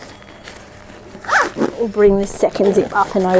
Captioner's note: zip hisses